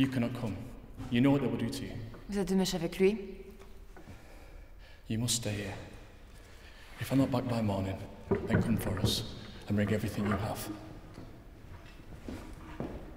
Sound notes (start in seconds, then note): 1.6 Ellie speaks in French